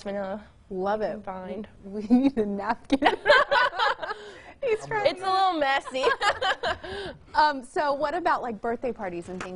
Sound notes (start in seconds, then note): 5.8 laughter